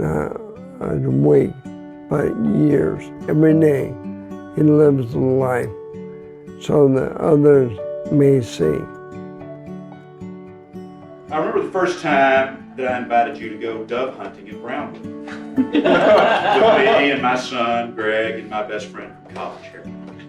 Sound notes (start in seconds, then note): 15.2 guests laughing